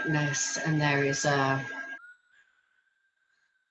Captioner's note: exhales